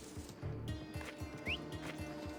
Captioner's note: whistle